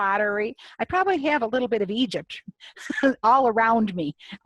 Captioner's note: laughs